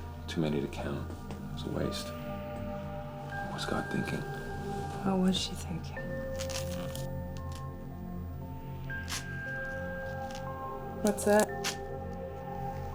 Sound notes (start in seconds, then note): 9.0 velcro rips